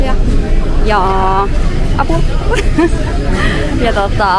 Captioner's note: laughter